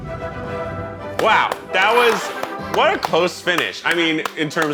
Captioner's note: clapping